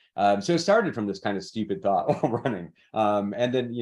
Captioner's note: chuckles